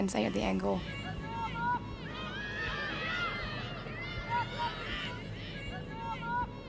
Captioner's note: teams chattering; crowd cheering